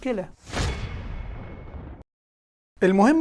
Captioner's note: sound effects